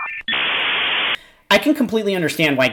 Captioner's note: dial-up noises